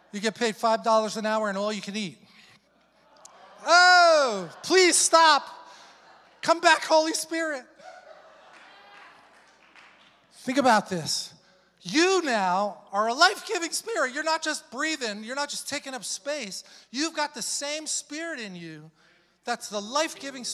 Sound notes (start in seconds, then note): 3.5 congregation groans